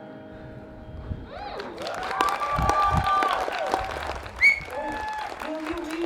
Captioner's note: cheering